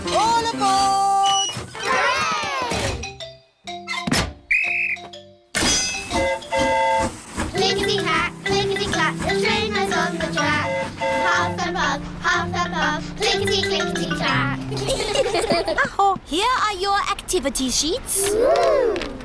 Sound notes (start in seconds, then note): 4.4 blows whistle; 4.5 train horn toots; 14.6 all giggle